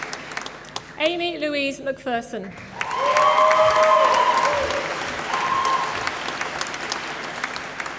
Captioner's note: applause